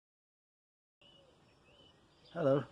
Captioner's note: birdsong